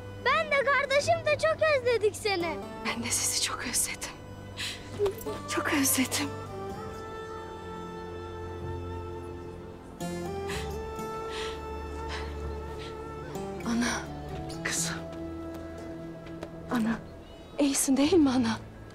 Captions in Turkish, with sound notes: Ben de, gardaşım da çok özledik seni. Ben de sizi çok özledim. Çok özledim. (Nefes sesi) -Ana. -Kızım. Ana. İyisin değil mi ana?